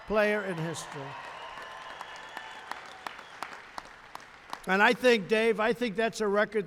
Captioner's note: applause